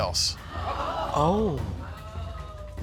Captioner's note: audience gasps